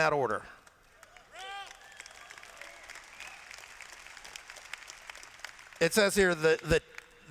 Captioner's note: applause